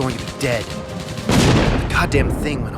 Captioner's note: V-1 explodes